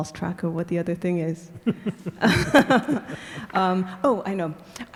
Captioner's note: laughing